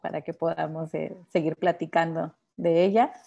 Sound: speaking Spanish

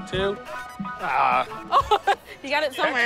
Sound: laughing

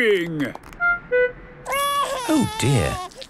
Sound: crying

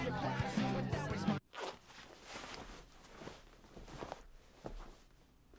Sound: zipping and fabric moving

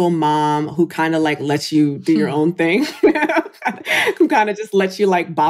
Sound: laughs

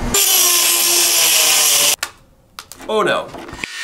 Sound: buzz saw running

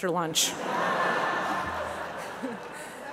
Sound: laughter

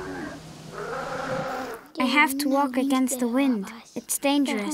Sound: elephants sounding

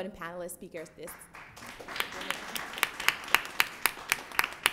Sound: applause

